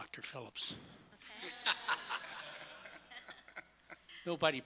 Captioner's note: laughing